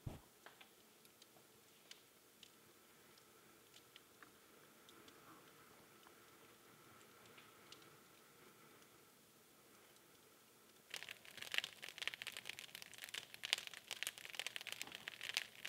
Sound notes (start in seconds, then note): 11.1 fire crackling